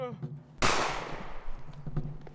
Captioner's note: gunshot